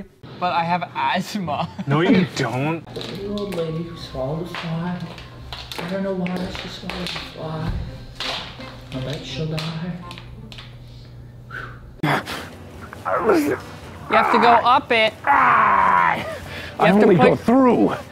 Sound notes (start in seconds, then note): 13.0 mark grunts